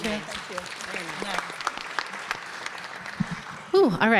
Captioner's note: everyone applauding